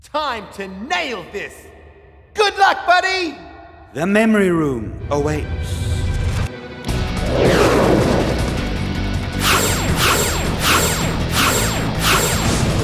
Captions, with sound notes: - Time to nail this. Good luck, buddy! - The memory room awaits. (rock music) (lasers firing)